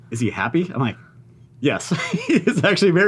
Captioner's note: laughs